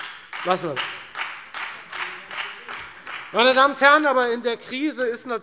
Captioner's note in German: Beifall Freie Demokraten und vereinzelt SPD